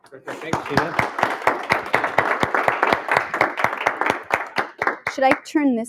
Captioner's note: applause